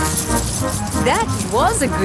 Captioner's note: coins jingling